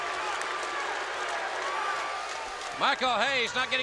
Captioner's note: crowd chatter